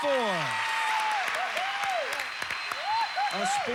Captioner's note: audience applauding